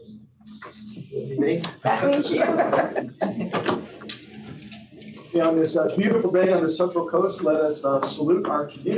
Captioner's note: laughter